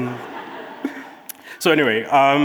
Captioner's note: audience laughing